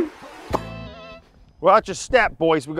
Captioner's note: lips popping